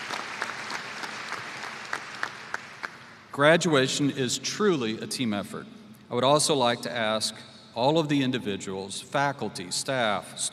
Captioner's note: applause